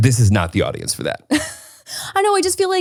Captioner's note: laughs